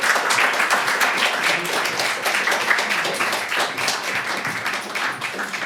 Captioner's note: applause